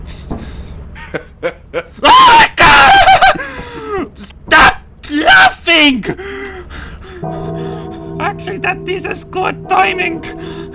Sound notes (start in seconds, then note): 2.1 scared screaming